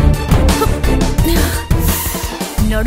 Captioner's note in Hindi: कराहना